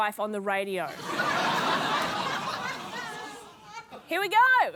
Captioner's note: laughter